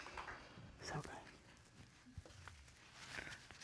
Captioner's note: whispers